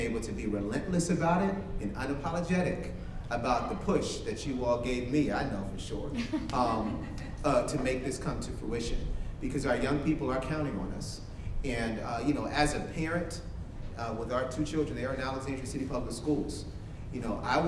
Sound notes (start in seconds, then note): 6.1 staff laughs